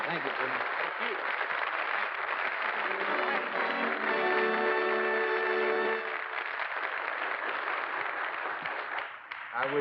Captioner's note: applause